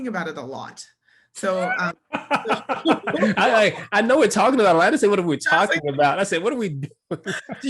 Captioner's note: laugh